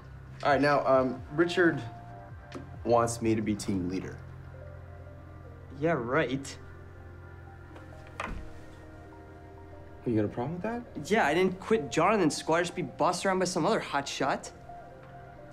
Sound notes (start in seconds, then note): none